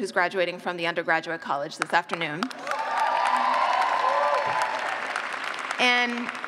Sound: cheers

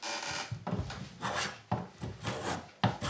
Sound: creaking

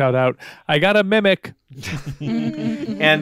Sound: group laughing

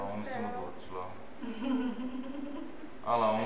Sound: laughs

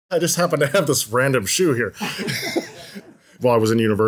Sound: laughs

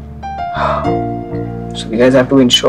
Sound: sighs

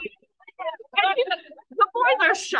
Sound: AUDIENCE laughs

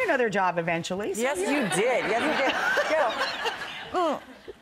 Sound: audience laughs

